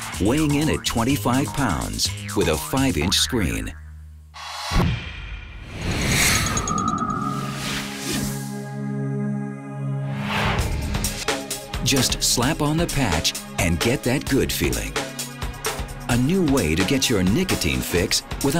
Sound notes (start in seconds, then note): 5.4 whooshes; 8.2 mellow music; 10.9 uptempo music